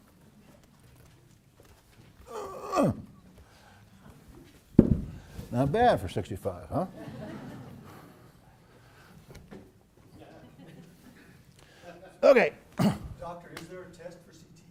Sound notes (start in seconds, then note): 6.6 laugh